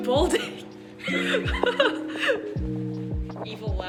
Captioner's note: collective laughter